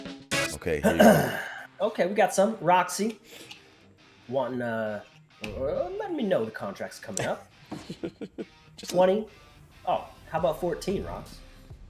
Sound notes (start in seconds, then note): 0.8 cough; 7.6 laugh